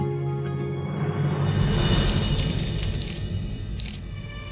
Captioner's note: pages flip